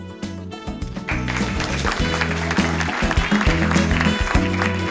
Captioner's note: applause